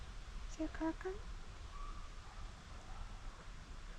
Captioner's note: dogs barking